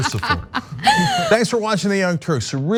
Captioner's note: laugh